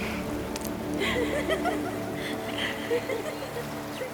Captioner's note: laughing